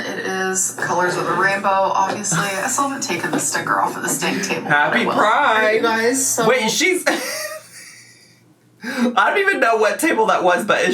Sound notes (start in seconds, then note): 2.7 laughs; 7.0 laughs